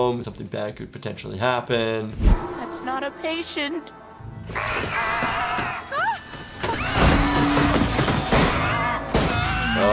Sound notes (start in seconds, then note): 4.7 female doctor shrieks